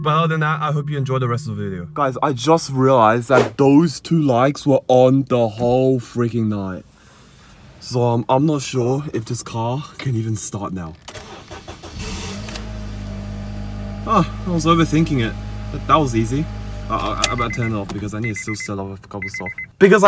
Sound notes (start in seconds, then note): 10.7 car starting noises